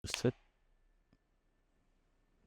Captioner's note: syncing hands clap slate